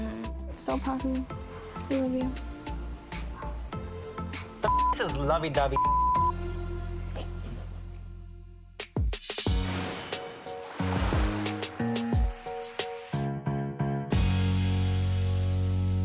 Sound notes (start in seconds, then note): 4.1 beep sound; 9.5 gentle music